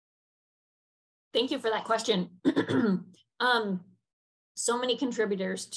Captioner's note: clears throat